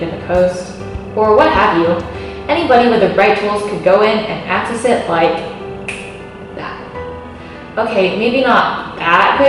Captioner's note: snap